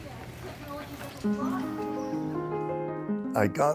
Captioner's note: people chattering